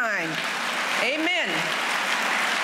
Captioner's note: applause